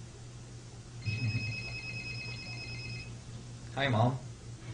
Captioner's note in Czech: telefon vyzvání